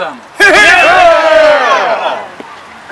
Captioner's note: crowd